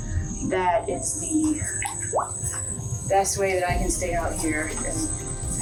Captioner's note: drip